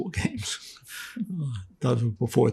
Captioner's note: laughing